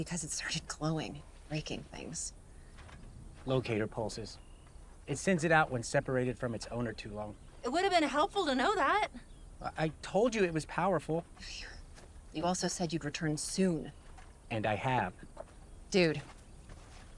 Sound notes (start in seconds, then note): 11.5 sighs